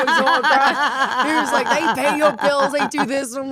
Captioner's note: Stephanie laughs